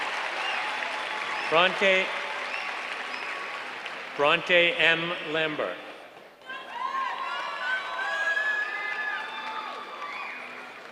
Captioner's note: applause